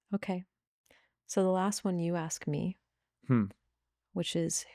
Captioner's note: none